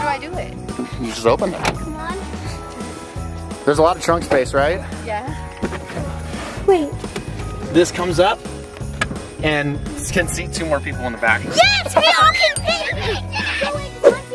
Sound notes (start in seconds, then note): 3.1 upbeat holiday music continues; 5.6 carpet scratching